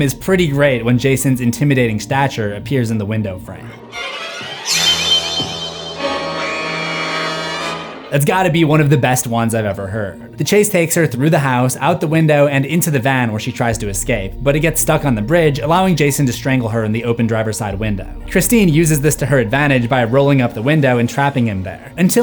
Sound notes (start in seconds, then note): 4.8 screams